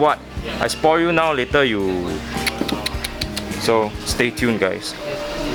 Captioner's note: tsk tsk tsk